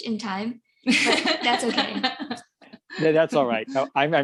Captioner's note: laughs